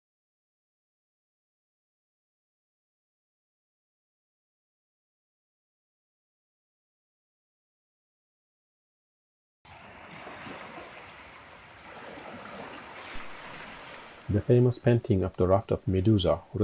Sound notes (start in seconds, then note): 9.6 waves crashing